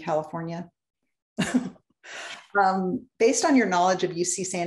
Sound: laughter

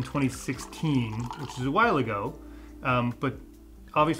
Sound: wine trickling

